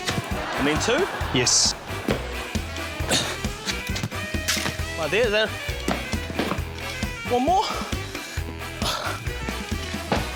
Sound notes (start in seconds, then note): 0.1 laughter; 3.0 grunts; 8.6 sighs